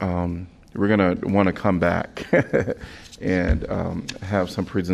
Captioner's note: laughter